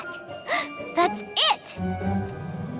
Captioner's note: gasp